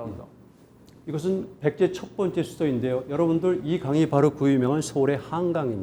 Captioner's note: speaking in Korean